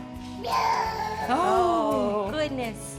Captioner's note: babbles